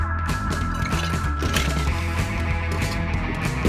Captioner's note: ice clashing